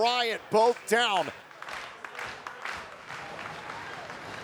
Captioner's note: crowd claps